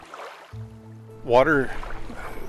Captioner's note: water rushing